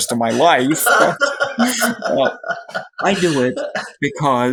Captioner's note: laughs